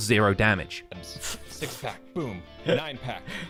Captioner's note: laughs